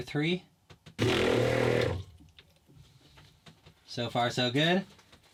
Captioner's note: loud whirring